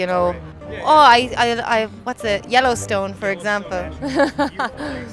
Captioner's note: laughs